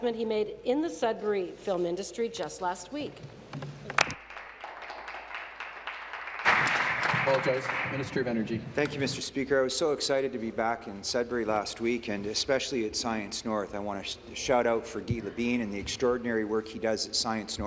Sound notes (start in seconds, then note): 9.0 applause